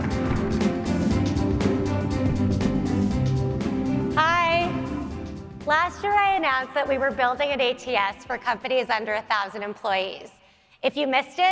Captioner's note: applause